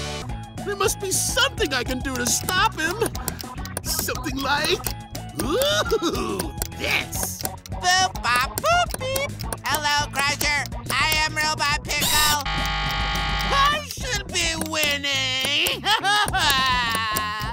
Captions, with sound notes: There must be something I can do is stop him. Something like... Ooo, yes! Boop bop boop beep! Hello Crusher. I am Robot Pickle. [buzzing ringing] I should be winning! [sobbing]